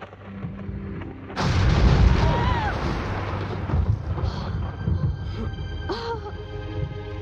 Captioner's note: lightening flashing; soft screaming